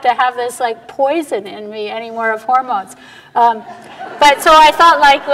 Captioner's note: audience laughter